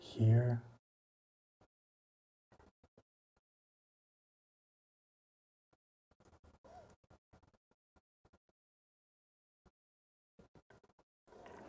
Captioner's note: silence